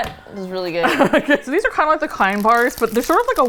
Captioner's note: laughs